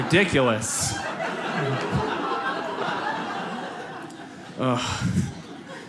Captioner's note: audience laughs